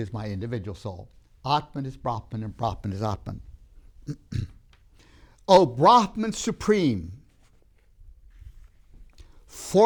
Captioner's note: clears throat